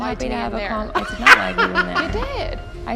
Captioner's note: laughing